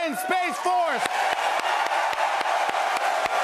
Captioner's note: cheers and applause